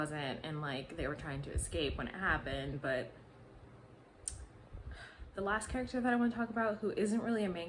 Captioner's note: sigh